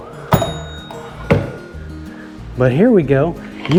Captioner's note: bell dings